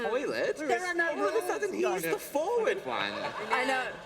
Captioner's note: laughter